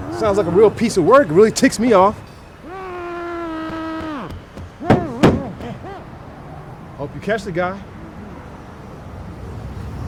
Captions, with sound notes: Sounds like a real piece of work really ticks me off. (Bo grunting) Hope you catch the guy.